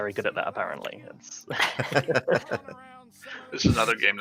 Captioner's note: laughter